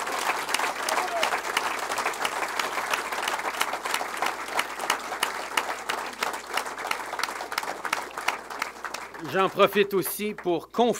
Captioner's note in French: Applaudissements